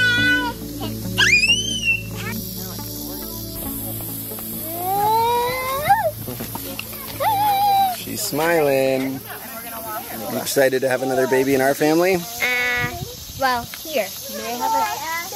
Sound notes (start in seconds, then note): 0.0 boy screams; 5.2 boy squeals